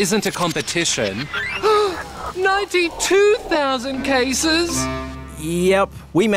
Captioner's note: phone beeps; gasps